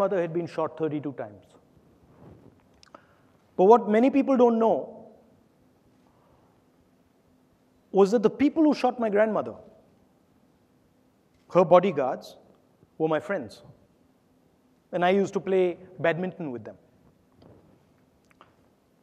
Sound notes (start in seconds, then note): none